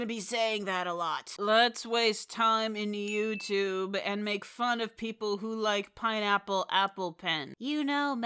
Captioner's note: product placement ding sound